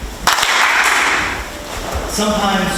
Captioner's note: group claps